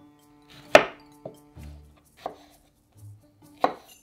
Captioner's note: knife cutting